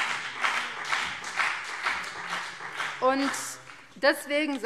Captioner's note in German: Beifall BÜNDNIS 90/DIE GRÜNEN